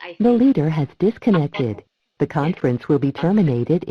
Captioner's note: automated Voice